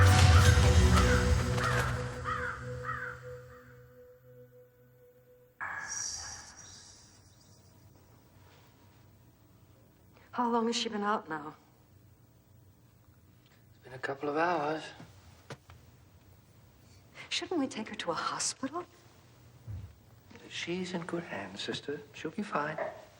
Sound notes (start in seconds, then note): 0.0 raven cawing over dramatic orchestral accent; 5.6 echoing ghostly voices